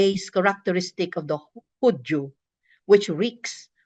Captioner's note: speaks in foreign language